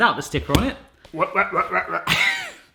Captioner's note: imitates DJ decks